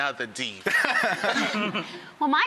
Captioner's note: laughing